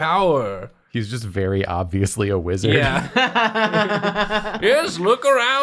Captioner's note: laughter